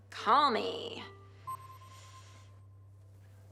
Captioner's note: system beeps